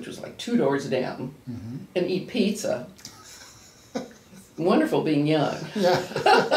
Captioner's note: laughs